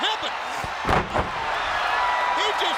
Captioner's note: Ric Flair thudding